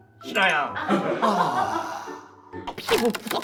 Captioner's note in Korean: 깊은 탄식